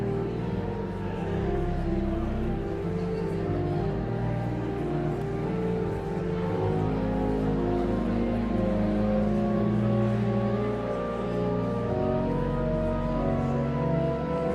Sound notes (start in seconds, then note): 0.1 pensive organ music continues; 4.2 audience chattering continues